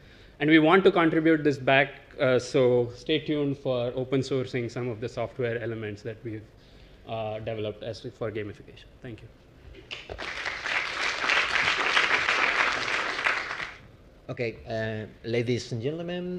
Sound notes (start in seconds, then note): 9.9 applause